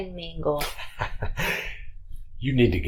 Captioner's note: chuckles